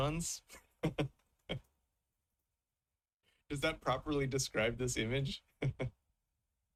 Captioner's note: chuckles